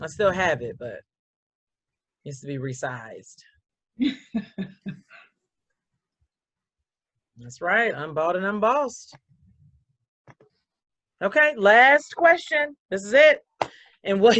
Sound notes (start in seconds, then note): 4.1 laughs